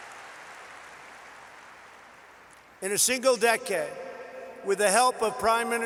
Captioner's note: applause